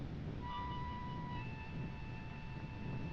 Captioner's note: none